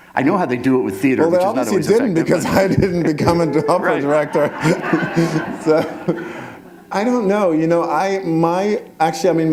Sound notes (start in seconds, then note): 4.9 laughter